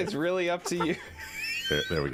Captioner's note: wheezing